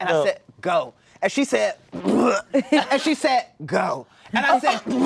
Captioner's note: retching noise